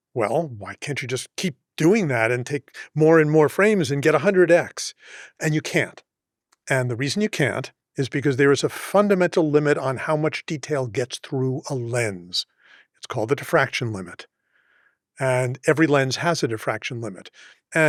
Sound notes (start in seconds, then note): none